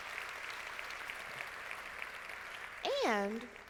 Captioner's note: crowd clapping